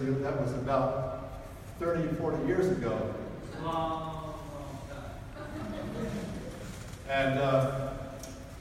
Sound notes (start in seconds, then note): 5.3 audience laughs